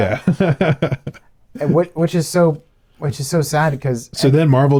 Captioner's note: laughing